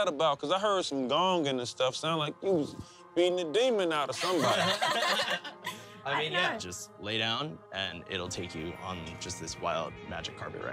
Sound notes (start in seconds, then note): 4.1 laughter